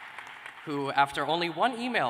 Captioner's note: cheers and applause